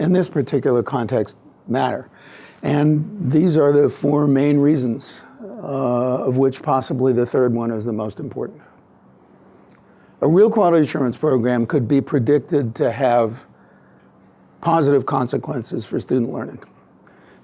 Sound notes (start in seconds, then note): none